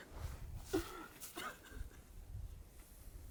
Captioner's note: sobbing